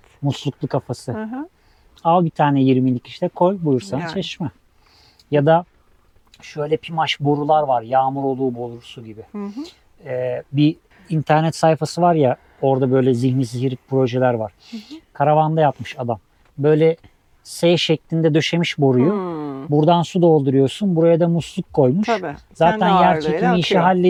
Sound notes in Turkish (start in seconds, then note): 5.5 homurdanır